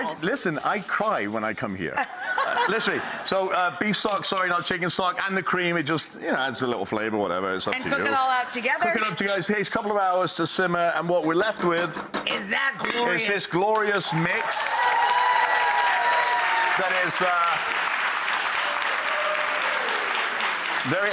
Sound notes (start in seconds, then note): 2.1 audience laughs; 13.8 audience cheers